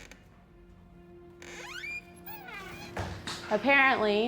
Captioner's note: door creaks